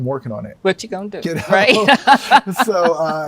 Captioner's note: laughs